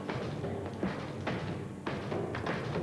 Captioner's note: pounding on door